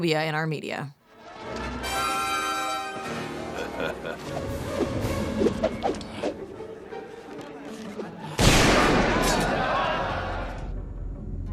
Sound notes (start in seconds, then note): 3.4 laughter; 5.6 characters speaking in Arabic